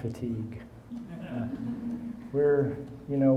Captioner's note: audience chuckling